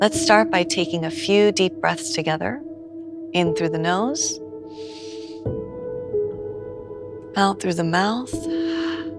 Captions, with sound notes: Let’s start by taking a few deep breaths together. In through the nose. [inhales] Out through the mouth. [exhales]